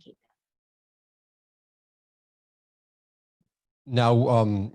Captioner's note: silence